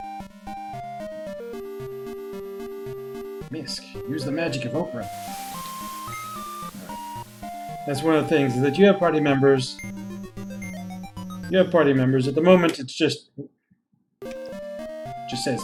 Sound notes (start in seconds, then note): none